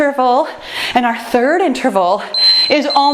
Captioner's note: timer beeps